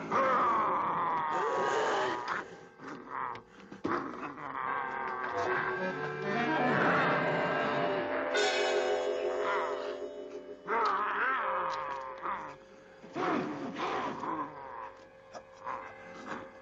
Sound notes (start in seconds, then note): 5.0 dramatic music; 10.8 werewolf growling